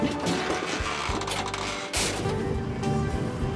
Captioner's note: door creaking